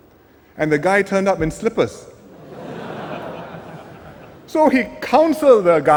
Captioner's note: laughter